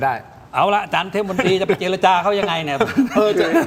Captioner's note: laughs